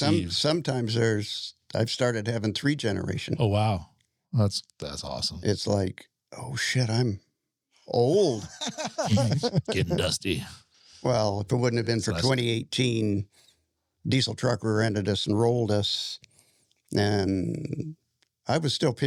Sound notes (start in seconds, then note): 8.3 laughing